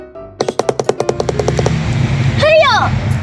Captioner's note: electric bongo drums; quick tapping